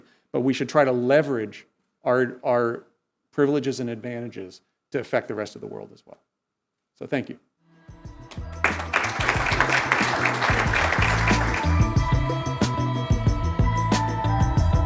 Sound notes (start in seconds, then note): 8.3 audience applauds; 11.9 upbeat music